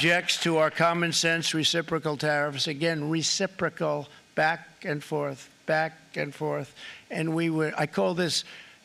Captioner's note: applause